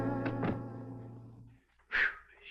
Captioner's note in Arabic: صوت طرق الباب